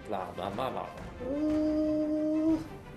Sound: humming

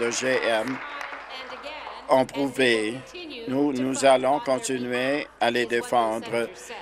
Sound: applause

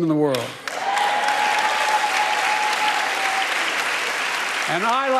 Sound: applause

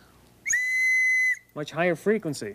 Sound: whistle blowing

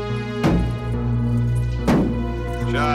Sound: <i> banging continues</i>

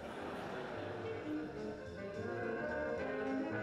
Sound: laughter

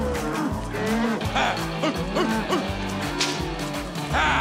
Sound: cracking rope

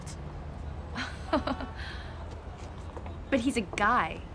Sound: laughs

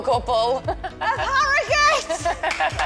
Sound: laughs; yells excitedly; clapping

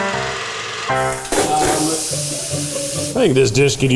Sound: cheerful piano music; steak sizzling

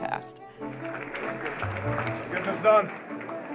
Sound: clapping

